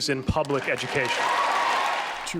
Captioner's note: cheering and applause